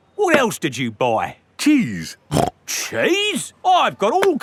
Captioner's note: snorts